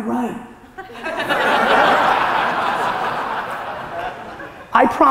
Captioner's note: audience laughter